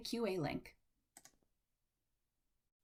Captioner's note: click